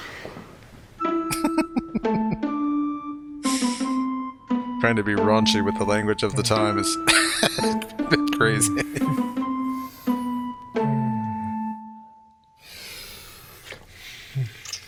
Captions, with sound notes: Trying to be raunchy with the language of the time is a bit crazy. [Laughing]